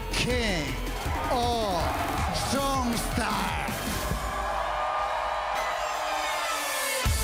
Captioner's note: crowd cheering